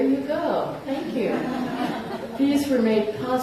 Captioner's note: laughter